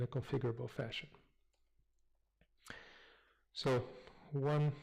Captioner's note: pause